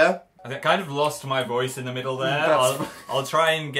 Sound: laughs

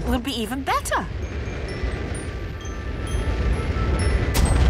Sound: rocket thrusting

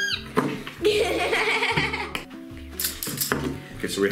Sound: laughs

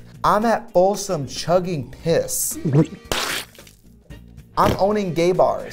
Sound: laughs

